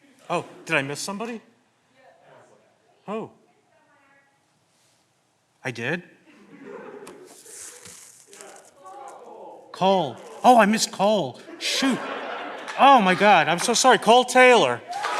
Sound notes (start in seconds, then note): 6.2 candidates laughing; 7.0 papers rustling; 14.8 all clapping; 14.9 candidates cheering